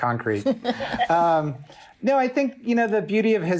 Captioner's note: laugh